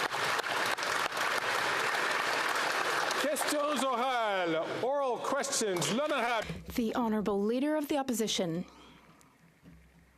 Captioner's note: some Applause